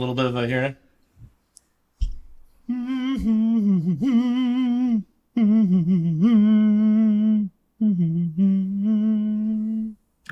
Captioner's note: humming